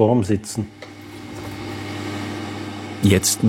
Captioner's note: machine whirring